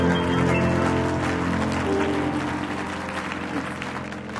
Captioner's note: audience applauds